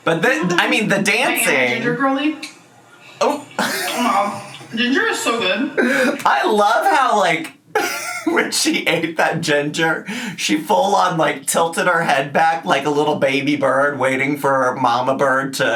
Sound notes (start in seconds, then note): 3.5 laughs